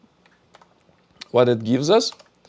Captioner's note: keyboard clicking